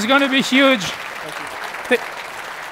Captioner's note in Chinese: 鼓掌